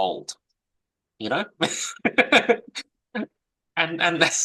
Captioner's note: laughs